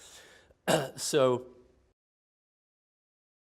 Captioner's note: clears throat